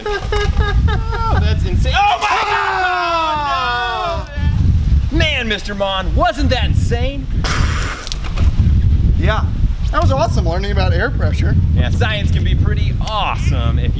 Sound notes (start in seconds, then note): 0.0 laughing; 7.4 spitting water